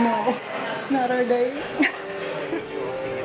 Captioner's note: laughing